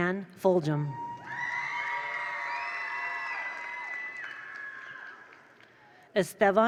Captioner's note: attendees cheer; attendees applaud